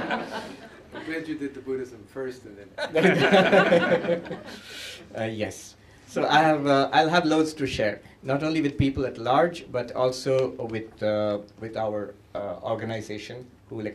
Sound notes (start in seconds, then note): 2.7 laughter